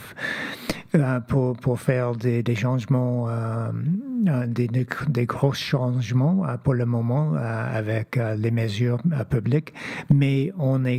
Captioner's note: speaking French